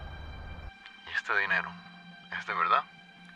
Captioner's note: Jose Luis and Petra's voice on radio